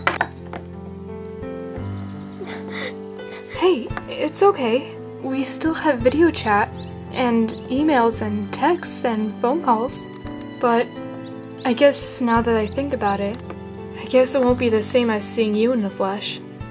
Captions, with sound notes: -(cries) -Hey, it's okay. -We still have video chat, and emails and texts and phone calls. -But, I guess, now that I think about it, I guess it won't be the same as seeing you in the flesh.